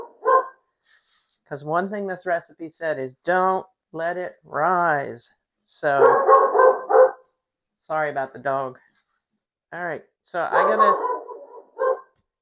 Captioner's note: dog barks; barking